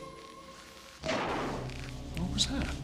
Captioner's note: ledakan jauh